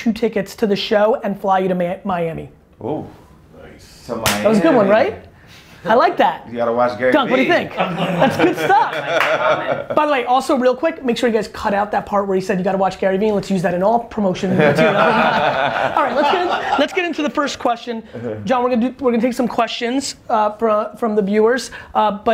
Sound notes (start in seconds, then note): 7.8 laughs; 14.4 group laughter